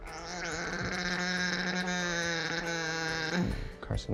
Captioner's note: vocalizes